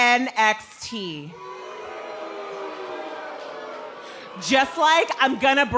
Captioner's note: crowd cheering